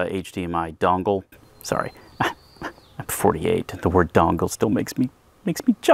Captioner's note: snickers